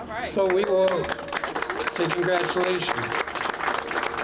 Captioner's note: applause